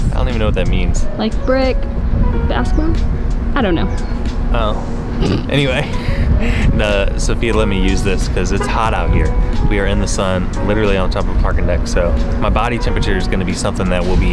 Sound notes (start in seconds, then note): 5.2 chuckles